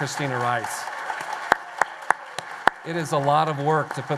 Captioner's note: applause